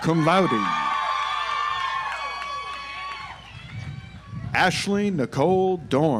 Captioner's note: audience applauds